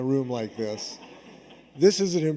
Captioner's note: audience laughs